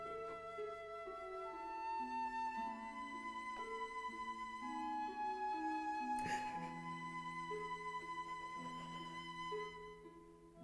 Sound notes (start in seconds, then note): 3.8 Sue sobbing; 8.1 pleasant music continues